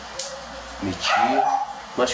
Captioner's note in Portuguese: latidos de fora da casa